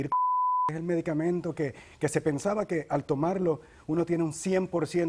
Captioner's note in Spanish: Bip